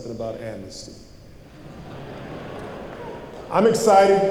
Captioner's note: laughter